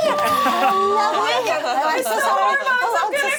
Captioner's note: excited chatter